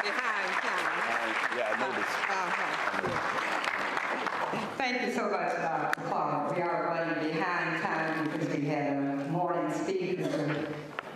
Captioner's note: applause